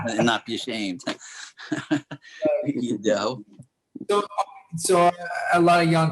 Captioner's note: Clifton laughing